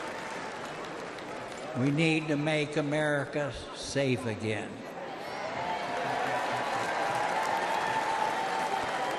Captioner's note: applause